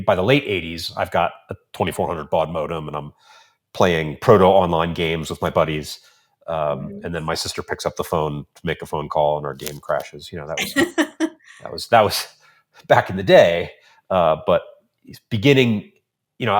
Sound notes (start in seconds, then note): 10.6 laughs